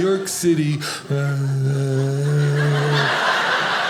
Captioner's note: groans; audience laughing